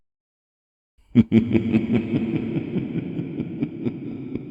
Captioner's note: evil chuckling